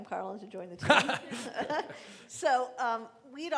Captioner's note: laughing